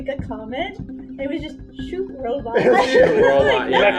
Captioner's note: laughter